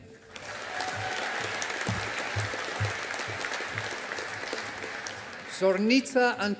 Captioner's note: audience applauding